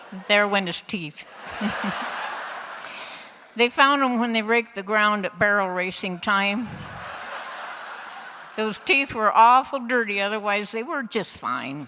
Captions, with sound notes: ...there went his teeth! (Laughter) They found 'em when they raked the ground at barrel racin' time; (Laughter) Those teeth were awful dirty, otherwise they were just fine.